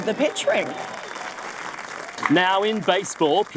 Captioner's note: audience applauding